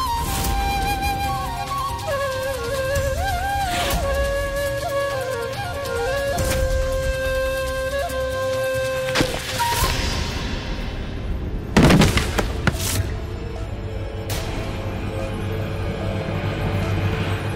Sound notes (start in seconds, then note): 11.7 thudding